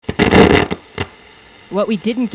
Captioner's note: static crackling